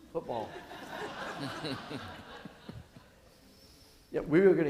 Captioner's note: audience laughing